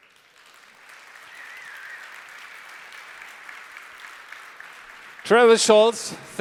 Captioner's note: applause